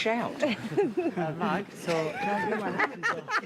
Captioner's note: all laughing